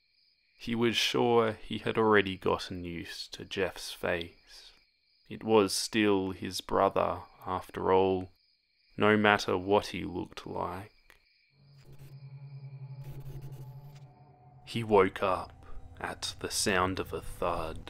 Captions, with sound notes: ''He was sure he had already gotten used to Jeff's face'' ''It was still his brother, after all..'' ''..No matter what he looked like..'' [SOFT STATIC] ''He woke up at the sound of a thud..''